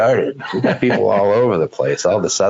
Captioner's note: laughs